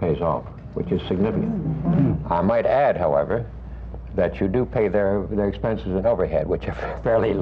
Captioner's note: murmurs of appreciation